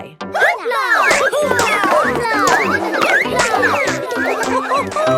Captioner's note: all laugh